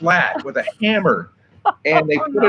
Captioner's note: host laughs